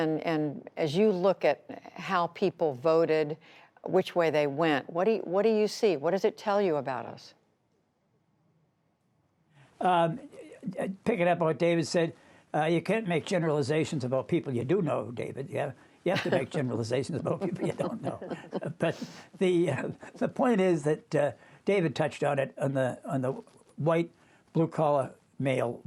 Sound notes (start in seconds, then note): 18.9 laughter